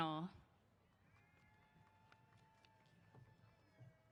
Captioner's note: cheers